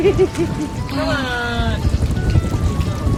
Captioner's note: sighs